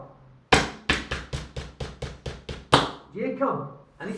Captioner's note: knocking